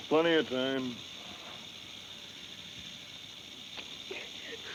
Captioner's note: snake rattles